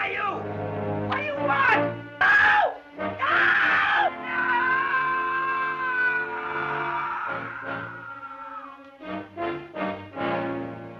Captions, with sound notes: Who are you? What do you want? No, no! (screaming)